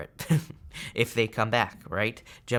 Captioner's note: chuckles